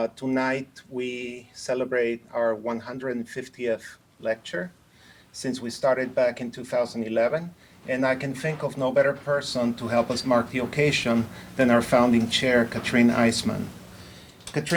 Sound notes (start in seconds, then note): none